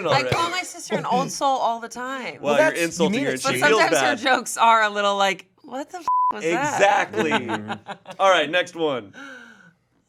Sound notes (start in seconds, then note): 6.0 beep